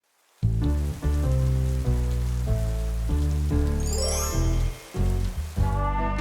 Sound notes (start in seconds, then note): 0.0 heavy Rain; 0.5 jazz Music